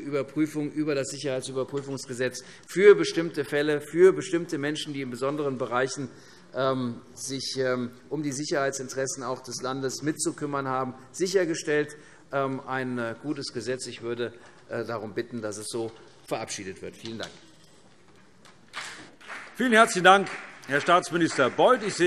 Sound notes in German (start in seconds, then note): 18.7 Beifall CDU und BÜNDNIS 90/DIE GRÜNEN